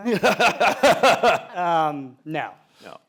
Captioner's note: laughter